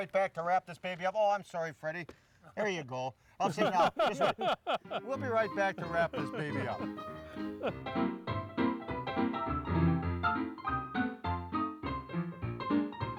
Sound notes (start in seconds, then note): 3.4 laughs